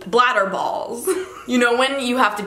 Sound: laughs

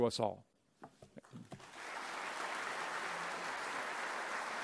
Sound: applause

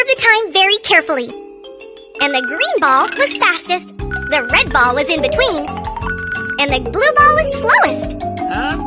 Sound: clears throat

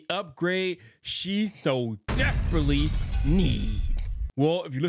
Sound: text thudding

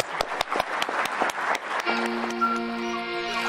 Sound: applause

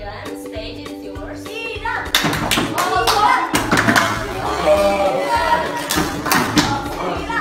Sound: clap, clap, clap

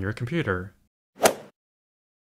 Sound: swoosh

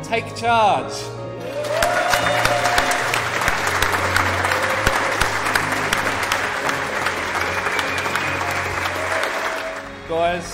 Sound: clapping and applause

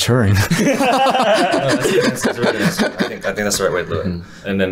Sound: all laughing

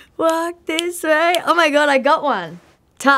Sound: snapping fingers

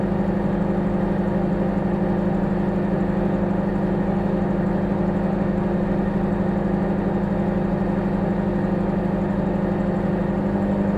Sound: microwave humming

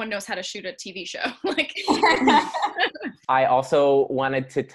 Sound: laughing

